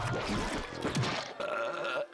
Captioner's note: belching